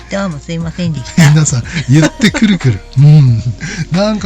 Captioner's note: laughs